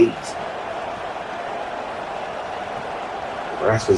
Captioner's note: crowd cheering